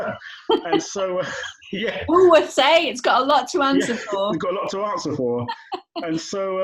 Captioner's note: laughter